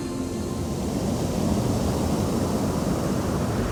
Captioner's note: waves lapping